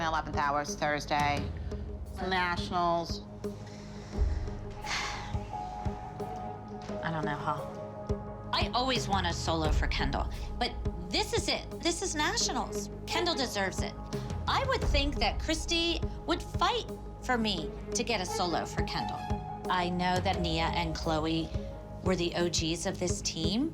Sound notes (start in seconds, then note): 4.0 sighs